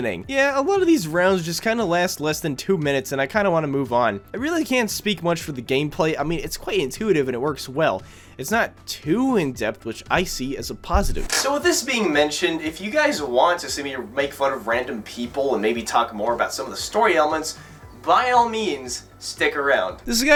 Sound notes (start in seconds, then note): none